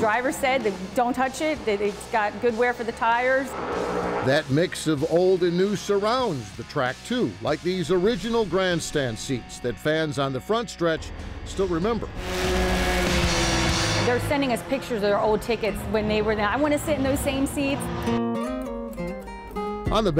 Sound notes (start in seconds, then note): 13.1 car engine roaring; 18.0 gentle music